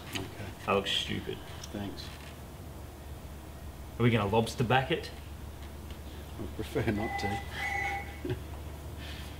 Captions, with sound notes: -OK. -That looks stupid. Thanks! Are we going to lobster back it? -I'd prefer not to [laughs]. -[phone rings]